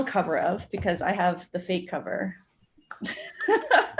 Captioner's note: laughs